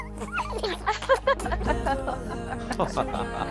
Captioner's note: child cracks up; laughter